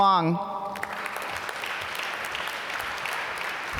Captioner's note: applause